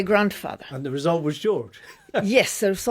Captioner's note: chuckles